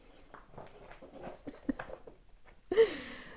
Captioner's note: chuckles